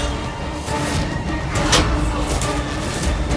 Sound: clanging

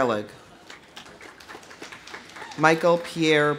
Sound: audience applauding; audience whoops

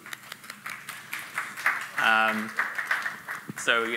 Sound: applauds; audience applauds

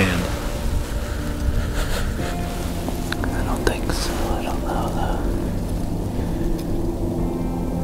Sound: whispered voices, soft music

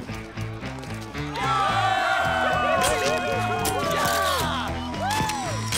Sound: cheering

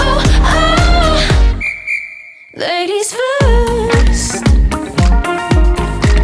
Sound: whistle

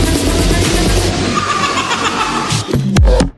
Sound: creepy laugh

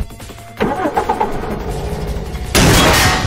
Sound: starts the engine

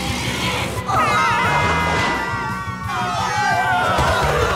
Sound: cheering

